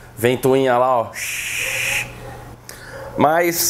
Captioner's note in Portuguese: barulho de ventilador